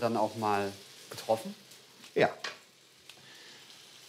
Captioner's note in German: Leises Brutzeln